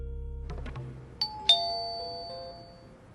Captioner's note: doorbell rings